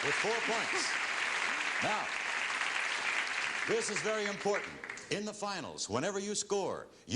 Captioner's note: applause